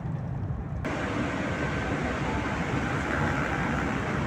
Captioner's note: loud train engine noise